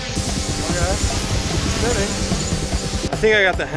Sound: high pitched buzzing

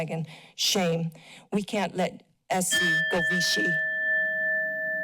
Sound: bell dings

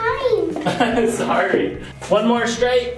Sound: laughing

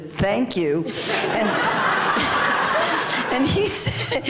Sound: laughter

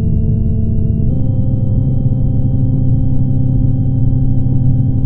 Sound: tone shifts higher

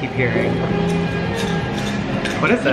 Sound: medals rattling

